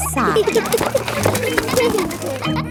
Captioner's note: kids giggling